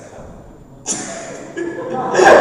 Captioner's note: scripted laughter